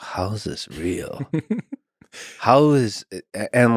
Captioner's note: Tim laughs